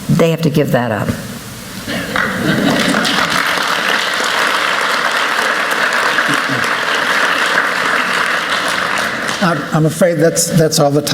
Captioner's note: applause